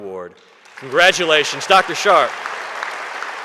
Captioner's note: audience applauding